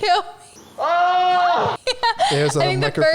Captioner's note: man shouting